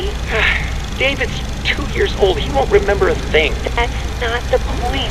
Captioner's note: EDWIN, scoffing